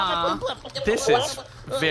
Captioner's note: Nermut continues to make strained noises as he’s tickled